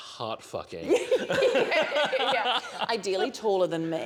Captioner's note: laughter